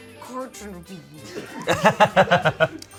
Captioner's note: laughter